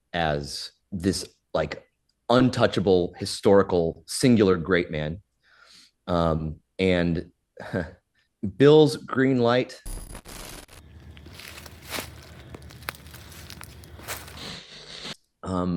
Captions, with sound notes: as this, like, untouchable, historical, singular, great man. And (Professor Greenlight chuckles) Bill's green light— (audio glitches) (leaves rustling)